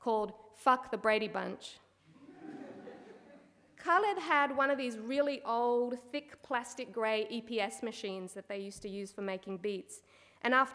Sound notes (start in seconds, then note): 2.2 audience laughing